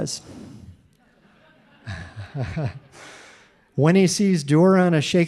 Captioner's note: audience laughing